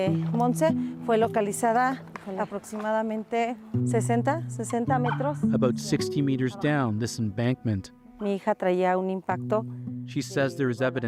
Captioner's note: speaking alternate language